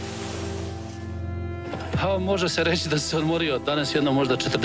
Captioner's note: speaking Serbo-Croatian